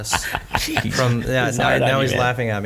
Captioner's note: all laughing